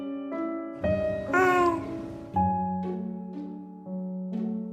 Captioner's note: baby coos